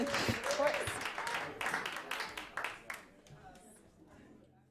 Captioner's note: applause